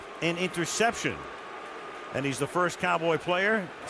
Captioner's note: booing